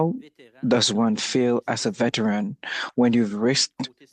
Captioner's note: speaking French